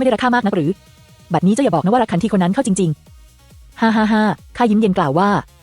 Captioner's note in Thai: เสียงหัวเราะ